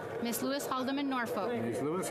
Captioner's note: speaking French